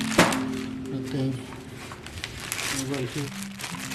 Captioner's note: rustling